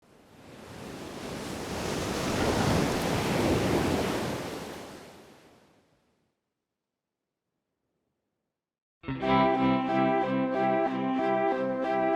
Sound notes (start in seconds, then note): 0.1 waves crashing; 9.0 mellow music